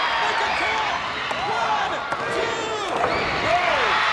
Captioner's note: hand thudding; body thudding